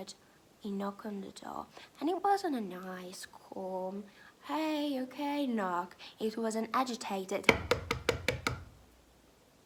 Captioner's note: knocking